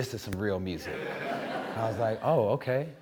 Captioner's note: audience laughing